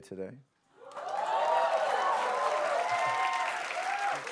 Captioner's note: cheers and applause